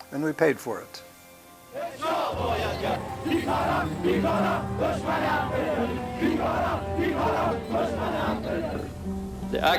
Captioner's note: crowd chanting